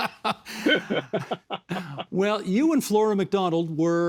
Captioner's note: laughing